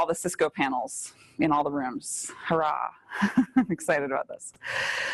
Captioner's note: laughs